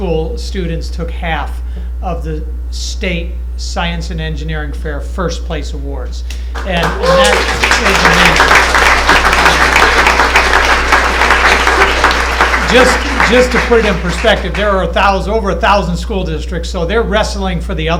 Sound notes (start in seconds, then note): 10.7 applause